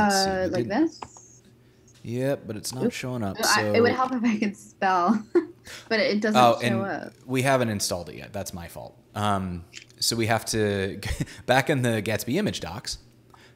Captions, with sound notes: Let's see, it didn't-- - Like this? - Yeah, but it's not showing up. - It would if I could spell. (giggles) But it doesn't show up. - We haven't installed it yet, that's my fault. So we have to, back in the gatsby-image docs,